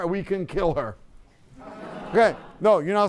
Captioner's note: laughter